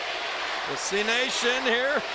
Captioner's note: applause